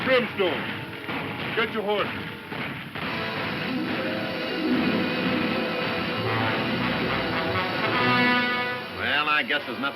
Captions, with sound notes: The men we really want are in Brimstone. Get your horses. (guns firing) (dramatic music)